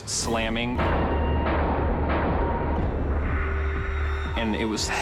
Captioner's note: doors slamming